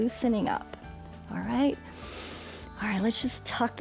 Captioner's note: inhales